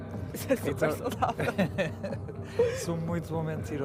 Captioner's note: laughs